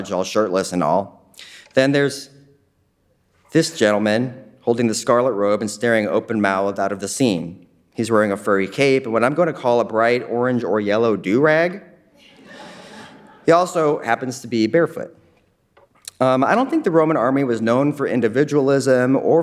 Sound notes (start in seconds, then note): 12.2 audience laughing faintly